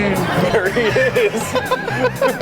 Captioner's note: laughs